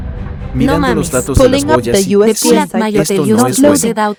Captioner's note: a cacophony of reports in English and Spanish